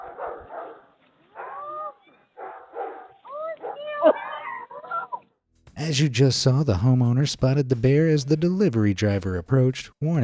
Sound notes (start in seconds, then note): 0.0 dogs barking; 1.4 child yelling faintly